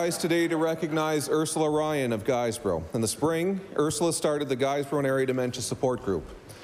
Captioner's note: laughter